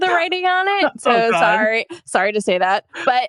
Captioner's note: laughs